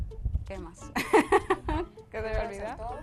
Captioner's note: laugh